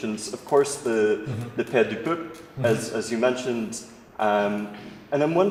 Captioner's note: french